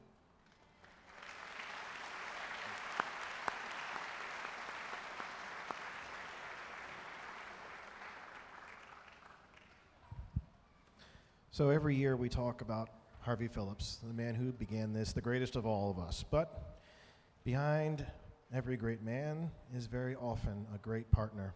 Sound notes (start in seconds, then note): 1.7 audience applauding